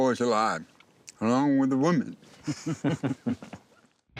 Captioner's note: chuckling